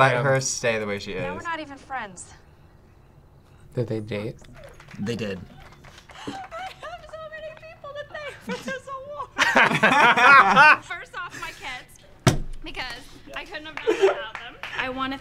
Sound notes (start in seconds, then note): 4.5 laughs; 9.4 both laugh